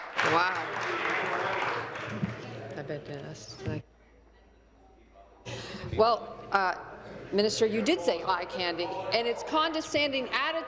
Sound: applause

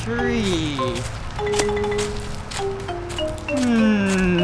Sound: crunching

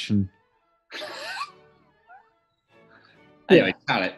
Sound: sniggering

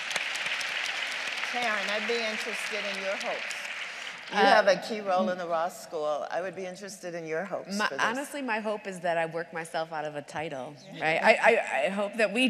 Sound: applause

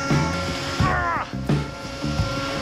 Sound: HULK sound

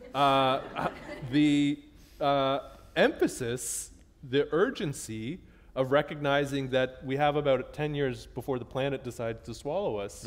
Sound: laughter

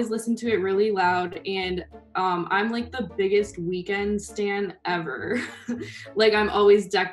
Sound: chuckles

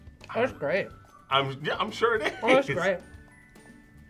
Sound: laughs

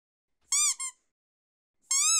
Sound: squeak

